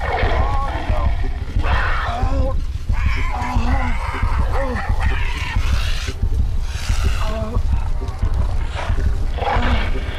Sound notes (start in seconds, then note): 2.9 panther growling; 6.7 Oliver groaning